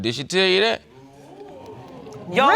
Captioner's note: audience exclaims